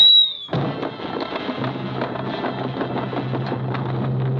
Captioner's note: rocks clattering